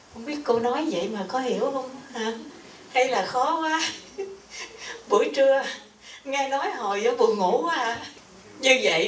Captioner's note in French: rires